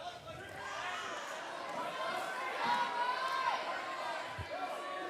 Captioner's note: cheers and applause